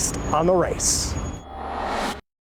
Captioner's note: whooshing